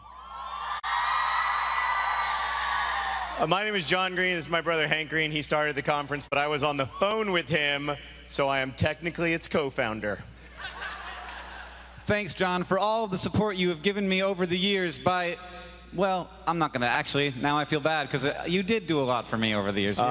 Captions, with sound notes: SEVENTH ANNUAL VidCon. [APPLAUSE] >> MY NAME IS JOHN GREEN AND THIS IS MY BROTHER, HANK GREEN WHO STARTED THE CONFERENCE, BUT I WAS ON THE PHONE WITH HIM SO I AM THE CO-FOUNDER. >> THANK YOU FOR THE SUPPORT YOU